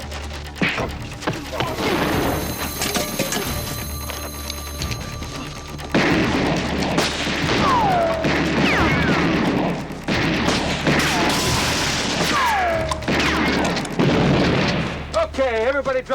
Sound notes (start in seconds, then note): 0.0 dramatic music; 0.6 punches land; 5.8 guns fire